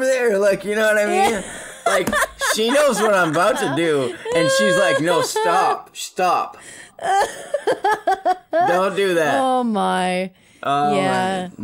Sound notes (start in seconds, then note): 3.8 laughing; 9.6 laughs